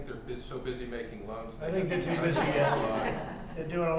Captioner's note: laughter